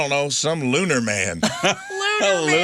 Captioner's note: laughing